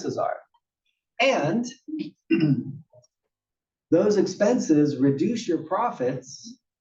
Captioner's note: cough